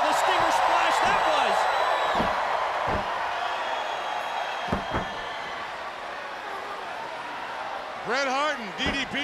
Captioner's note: crowd cheering